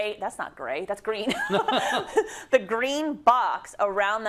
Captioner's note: laugh